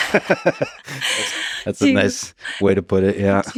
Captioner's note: both laughing